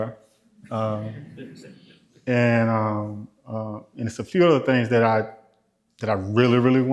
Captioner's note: laughter